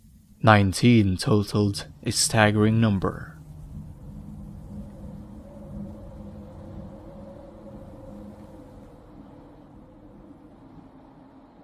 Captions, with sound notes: 19 totalled a staggering number. [SAND FLOWING] [WIND BLOWING]